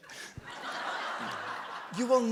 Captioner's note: audience laughs